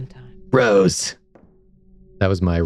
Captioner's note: raspy